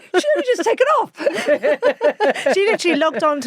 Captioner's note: both laughing